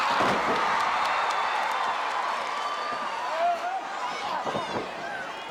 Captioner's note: audience cheering continues